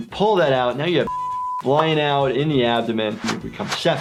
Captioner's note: beep